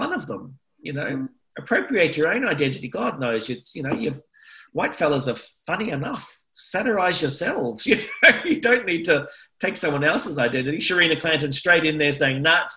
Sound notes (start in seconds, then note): 7.8 laughter